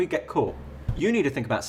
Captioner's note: table tapping noise